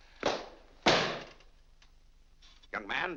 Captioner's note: book slams on desk